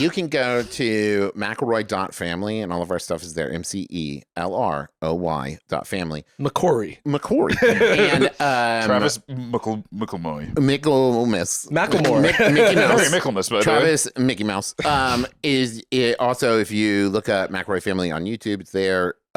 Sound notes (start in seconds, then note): 7.5 laughs